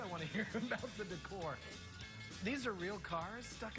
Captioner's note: laughs